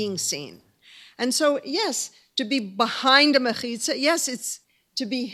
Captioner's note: hebrew